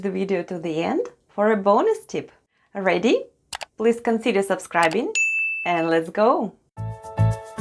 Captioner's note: click & ding sounds